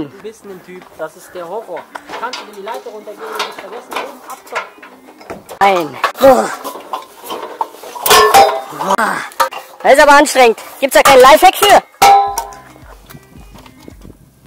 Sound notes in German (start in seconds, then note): 12.0 klonk